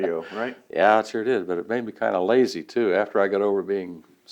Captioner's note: laughs